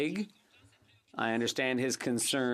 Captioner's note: speaking in French